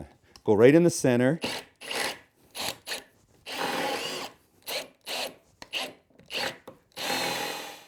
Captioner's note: drill